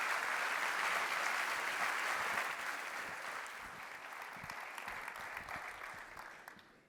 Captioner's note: applause